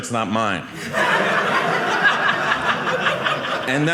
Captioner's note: audience laughing